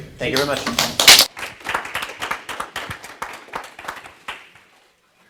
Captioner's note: people applauding